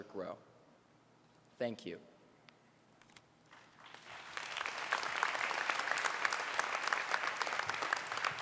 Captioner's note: applause